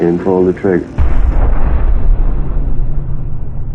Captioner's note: muffled gunshot pops